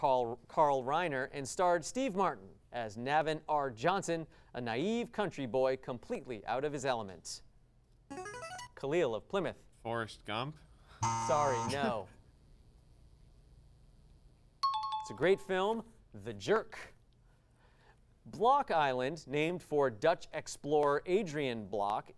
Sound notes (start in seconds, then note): 8.2 device sound; 11.0 buzzing sound; 14.6 ding